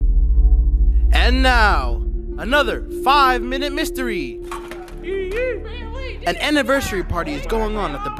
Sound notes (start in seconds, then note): 4.4 party in background